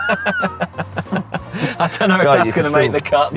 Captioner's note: both laughing